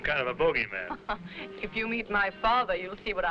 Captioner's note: chuckling